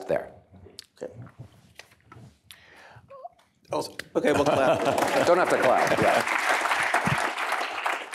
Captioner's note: applause